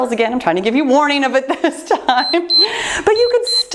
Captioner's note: timer beeps